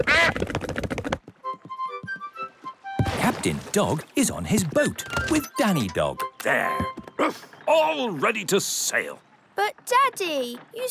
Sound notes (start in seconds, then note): 0.0 quacks; 7.3 woofs